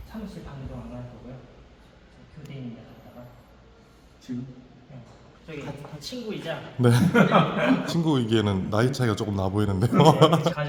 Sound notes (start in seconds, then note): 6.8 haha